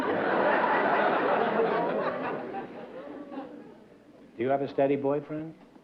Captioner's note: laughter